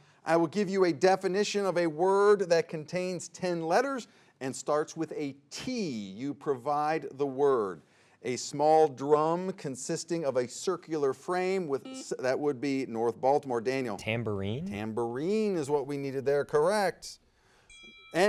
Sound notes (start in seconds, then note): 11.8 buzzer beeps